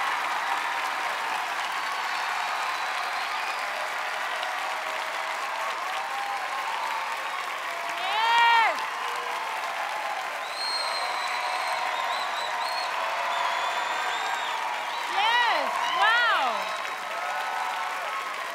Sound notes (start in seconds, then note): 0.2 applause continues; 9.0 clapping; 10.4 whistling